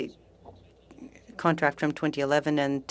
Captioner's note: speaking french